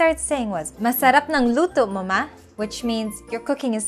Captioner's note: speaking in foreign language